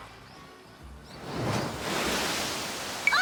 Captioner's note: whoooosh*~